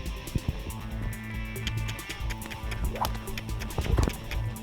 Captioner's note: clicks tongue